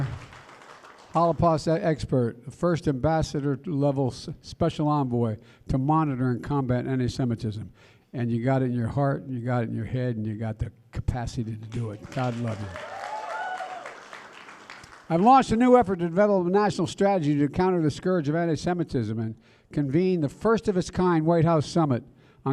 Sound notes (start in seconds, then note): 11.7 applause